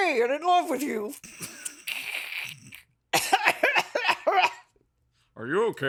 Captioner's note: snorts, snickers and hacks loudly